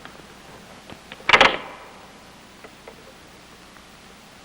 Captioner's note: clicking